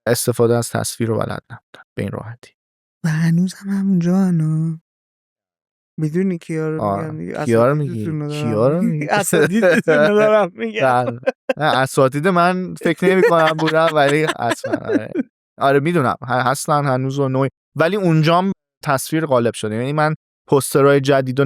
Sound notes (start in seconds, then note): 14.3 laughs